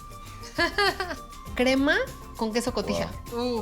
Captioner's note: speaking Spanish